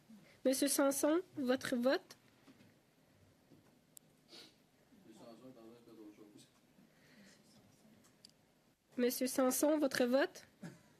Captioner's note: speaking French